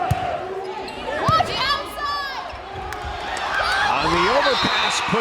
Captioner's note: crowd and players cheering